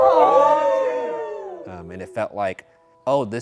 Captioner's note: group cheering